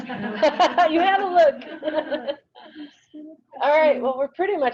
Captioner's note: laughing; laughs